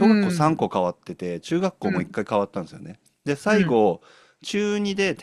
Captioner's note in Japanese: 咳払い